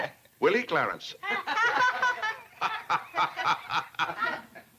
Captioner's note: laughter